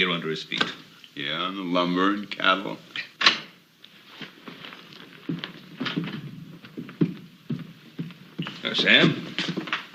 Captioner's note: door opening